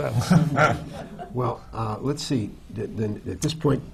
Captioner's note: laughter